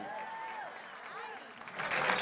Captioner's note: applause